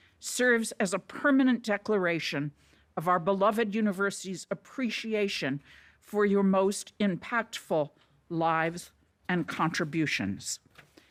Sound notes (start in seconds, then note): none